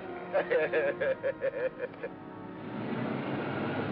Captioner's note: laughs